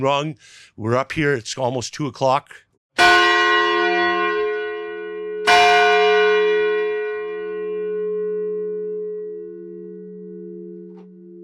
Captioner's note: bell ringing